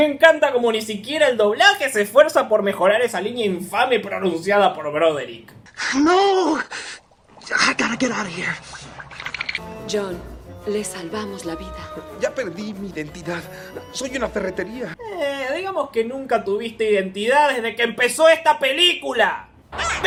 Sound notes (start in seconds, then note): 9.1 teeth noises